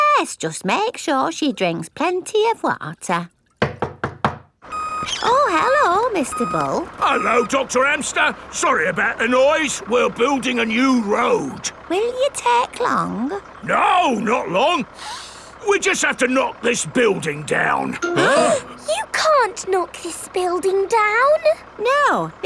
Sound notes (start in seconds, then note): 3.6 knocking at door; 15.0 sniffs; 18.1 all gasping